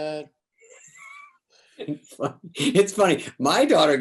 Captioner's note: both laugh